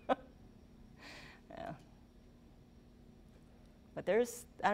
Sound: laughing

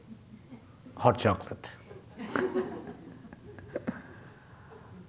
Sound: laughter

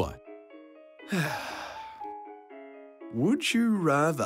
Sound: sighs

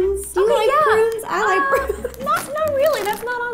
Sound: laughs

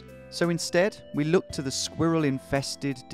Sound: none

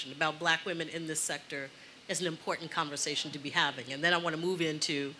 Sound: none

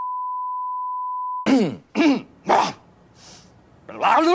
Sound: clears throat

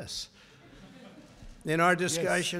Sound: laughter

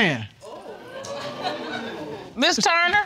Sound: audience exclaiming

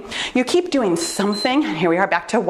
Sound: timer beeps

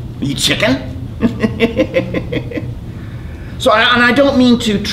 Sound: laughs

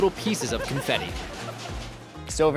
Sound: laughter

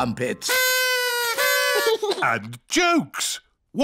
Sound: blowing

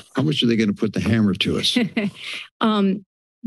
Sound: laughs

